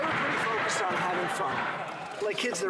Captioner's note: clapping